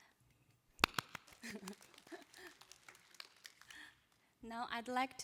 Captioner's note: applause